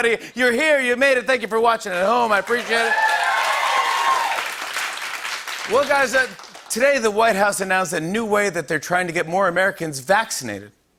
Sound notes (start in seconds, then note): 2.2 cheers and applause